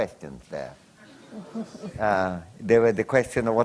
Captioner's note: laughter